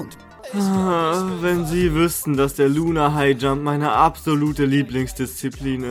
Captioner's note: sigh